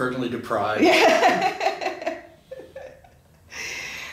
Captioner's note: laughing